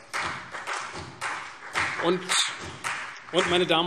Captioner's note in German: Beifall CDU und BÜNDNIS 90/DIE GRÜNEN